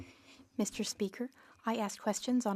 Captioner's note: speaking French